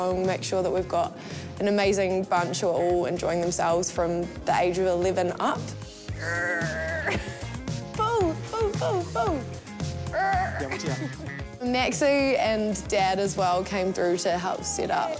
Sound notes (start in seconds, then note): 6.1 strains, laughs; 10.1 grunts, chuckles